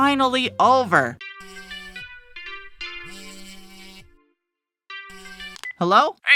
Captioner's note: phone ring